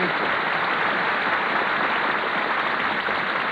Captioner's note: applause